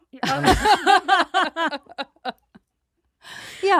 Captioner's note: laughing